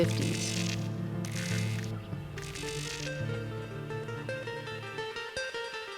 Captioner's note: electricity sizzling; spanish guitar